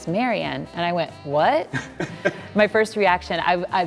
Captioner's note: laughing